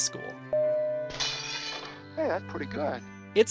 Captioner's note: glass shatters